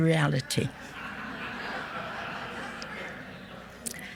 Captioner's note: audience laughs